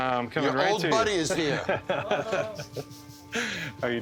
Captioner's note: laughing